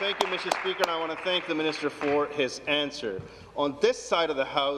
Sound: applause

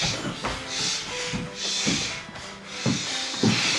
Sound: thuds; shushing

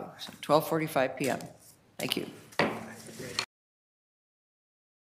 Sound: gavel thumps

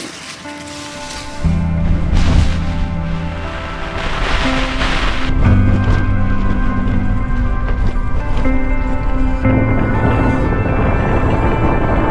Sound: wind gusting

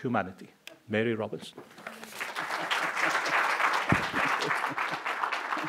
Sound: applause

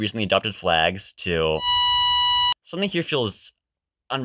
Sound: flatline sound

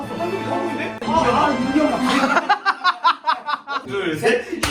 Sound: back slaps lol

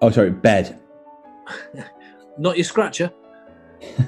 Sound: chuckling

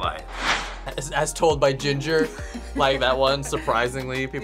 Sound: React laughs

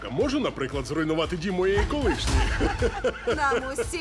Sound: laughter

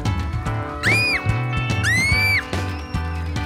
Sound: screaming

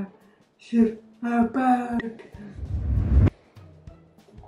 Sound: dramatic sfx

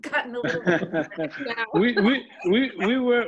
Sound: laughs

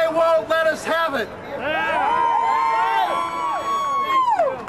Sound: crowd cheers

